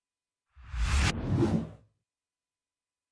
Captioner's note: air whooshing